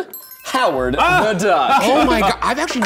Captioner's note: laughing